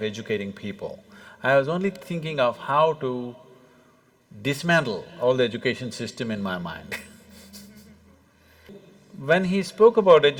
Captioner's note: laughs; Cười